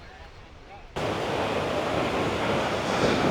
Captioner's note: air whooshing